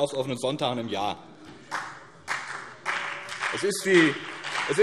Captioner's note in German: Beifall BÜNDNIS 90/DIE GRÜNEN und vereinzelt CDU